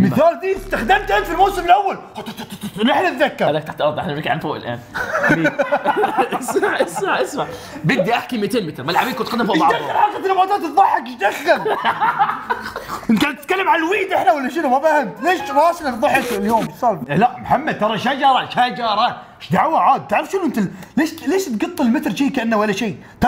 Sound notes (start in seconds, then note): 4.9 laughter; 11.6 laughs